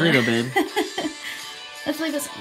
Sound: laughing

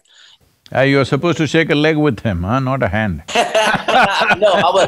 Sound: both laugh

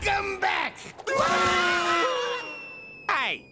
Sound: screaming

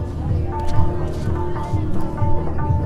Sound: people chattering

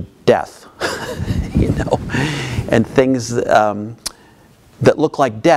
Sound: laughing

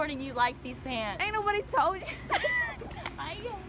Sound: all laughing

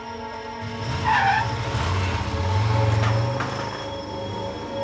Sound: wheels screech

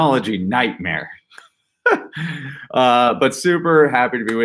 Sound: laughs

